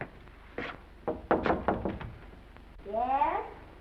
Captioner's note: knocking on door